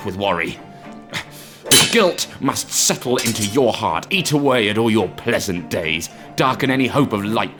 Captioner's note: swords Clash